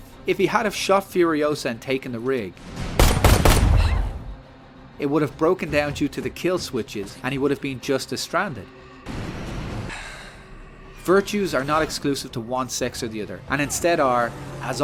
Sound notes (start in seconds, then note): 3.2 bang bang bang; 9.8 sigh